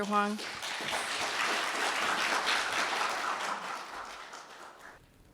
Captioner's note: audience applauding